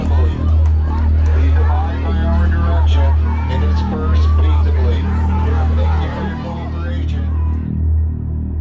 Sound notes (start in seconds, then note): 4.8 protestors yelling